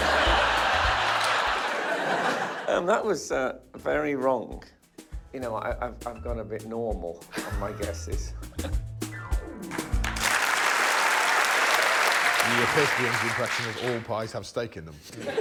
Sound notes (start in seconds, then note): 0.0 laughter; 9.8 applause